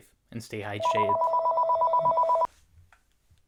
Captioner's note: phone rings